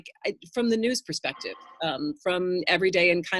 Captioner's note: phone rings